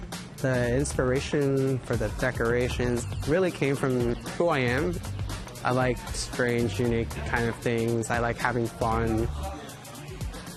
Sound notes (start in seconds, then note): none